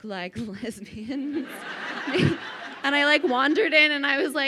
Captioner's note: crowd laughing